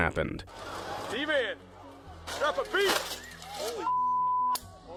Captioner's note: people chattering; beep